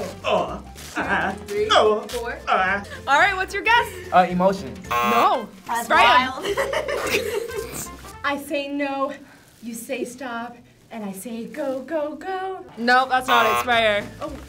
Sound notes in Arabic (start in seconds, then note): 6.4 تضحك